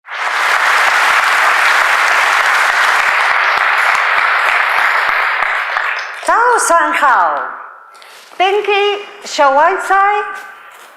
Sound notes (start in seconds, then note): 0.0 applause